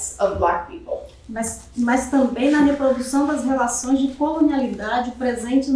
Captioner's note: speaking portuguese